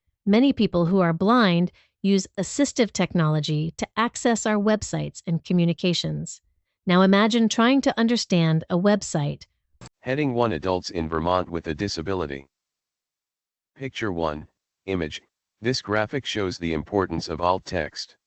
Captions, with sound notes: Many people who are blind use assistive technology to access our websites and communications. Now imagine trying to understand a website. [Computerized Voice] Heading One Adults in Vermont with a Disability. Picture one image. This graphic shows the importance of alt text.